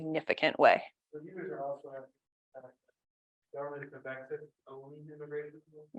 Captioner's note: participant speaks faintly